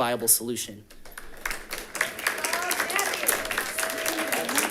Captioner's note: audience claps